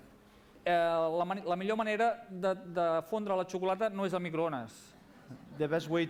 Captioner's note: non-english speech